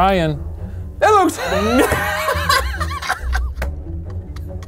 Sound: group laughing

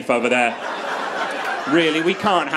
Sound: crowd laughs

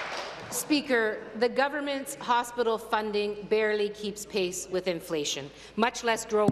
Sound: applause

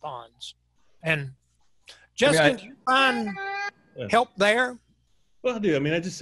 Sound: cat crying drowns out speaker

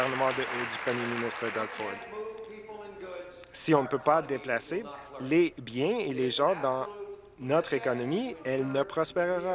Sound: applause

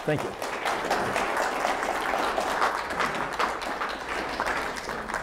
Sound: applause

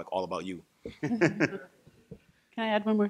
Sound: laughs

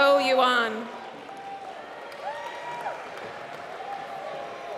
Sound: applause

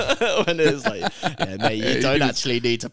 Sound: laughing

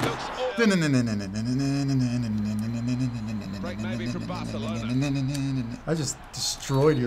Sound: spectators cheering; humming

